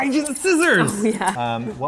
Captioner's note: laughing